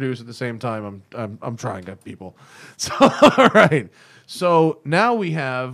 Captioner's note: laughter